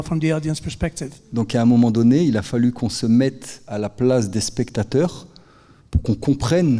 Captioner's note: speaking in French